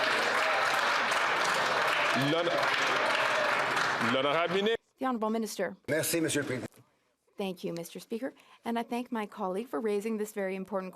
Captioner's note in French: applaudissements